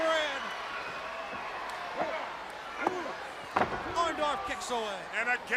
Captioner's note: crowd chatter